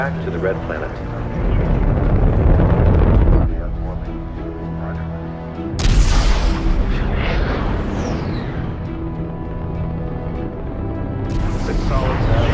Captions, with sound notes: as America begins its journey back to the red planet. (rocket boosters roaring) (rocket boosters separating)